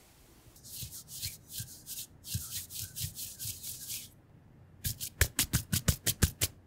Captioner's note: rubbing Sound